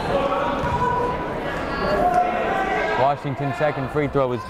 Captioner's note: chattering